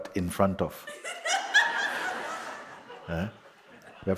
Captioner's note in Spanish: Más risas